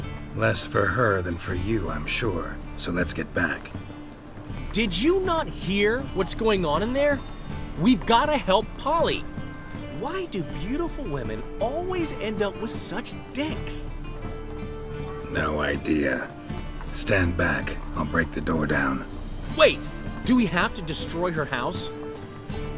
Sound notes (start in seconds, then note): none